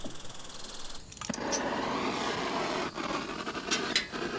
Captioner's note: gas hissing